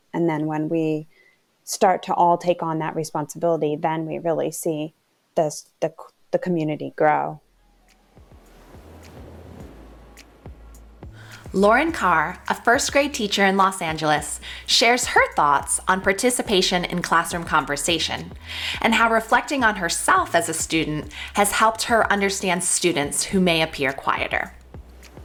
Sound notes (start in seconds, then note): 7.5 calm groovy music; 8.4 ocean wave crashes